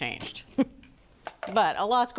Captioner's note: Julia chuckles